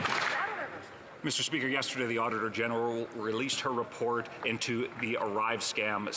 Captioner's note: some Applause